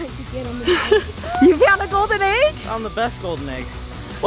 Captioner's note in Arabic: ضحكات خافتة